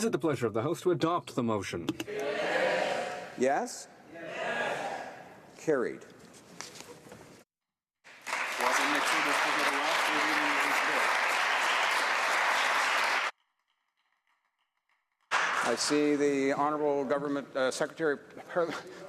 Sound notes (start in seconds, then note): 14.0 applause